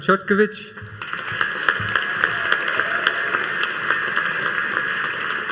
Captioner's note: audience applauding